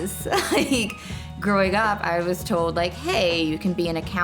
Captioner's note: laughing